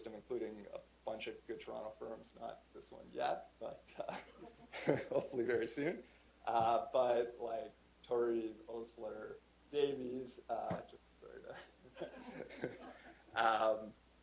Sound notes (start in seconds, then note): 6.8 chuckle; 13.0 laughter